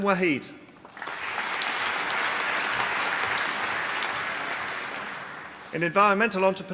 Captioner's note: applause